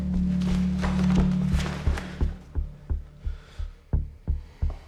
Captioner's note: bag rustling